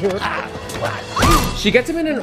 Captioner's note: man groaning in pain; woman shrieking